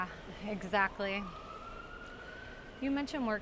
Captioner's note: ambulance siren closer